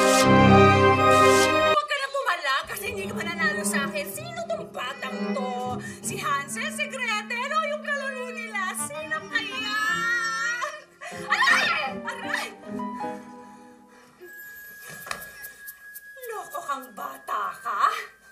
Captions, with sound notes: Stop fighting it. You won't win over me. -Who's this child? -[Ethel squealing] Is it Hansel, Gretel or their playmate? -Who could it be? -[Ethel continuously squealing] -Ouch! -[Ethel yelps] You crazy kid.